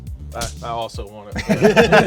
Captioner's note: punch thuds; all laughing